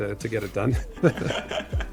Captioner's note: laughing